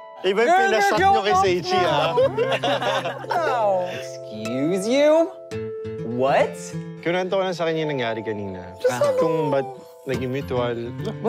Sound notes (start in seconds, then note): 1.8 laughing